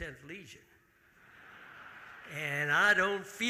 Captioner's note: audience laughing